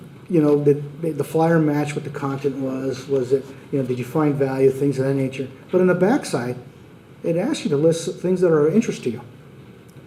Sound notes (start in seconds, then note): none